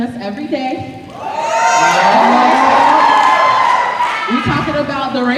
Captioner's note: cheering and snapping